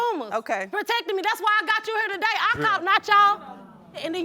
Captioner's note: audience murmuring